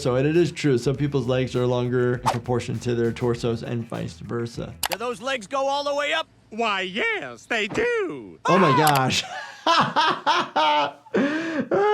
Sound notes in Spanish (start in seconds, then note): 7.7 el conductor grita; 8.6 el doctor se ríe